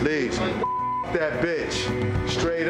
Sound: beep

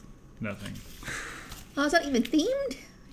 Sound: laugh

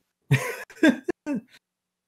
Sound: laughs

